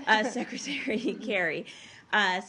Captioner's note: laughter